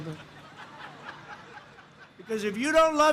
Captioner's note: laughter